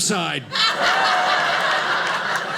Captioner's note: audience laughing